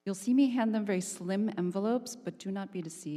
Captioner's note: none